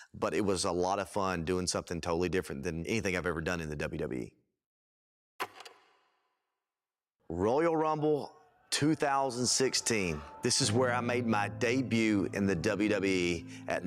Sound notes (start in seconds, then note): 5.9 film reel clicks